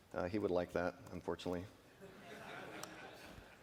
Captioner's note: laughter